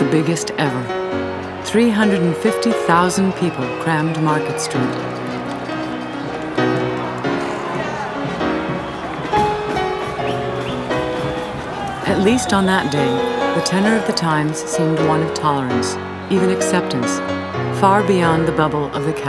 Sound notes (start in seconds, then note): 2.7 bright upbeat music continues; 6.6 crowd chattering